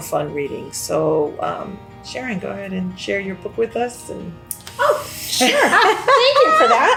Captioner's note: laughs